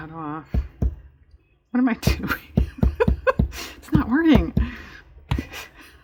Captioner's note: laughs